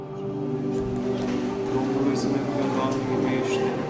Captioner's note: priest gives sermon in Romanian